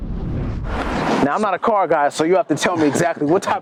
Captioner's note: wooshing